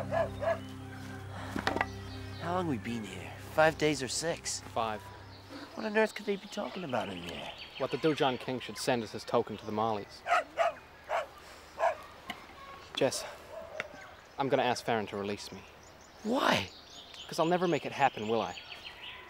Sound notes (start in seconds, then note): 0.0 dog barking; 10.2 dog barking